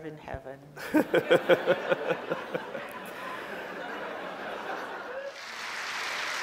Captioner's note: laughs; audience laughs; audience applause